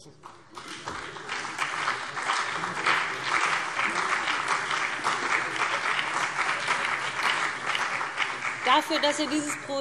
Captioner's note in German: Beifall BÜNDNIS 90/DIE GRÜNEN und CDU